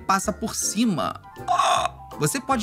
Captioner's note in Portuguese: faz som de surpresa